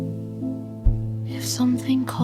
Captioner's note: the hum distorts slightly, like something listening in